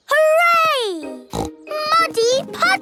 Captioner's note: snorting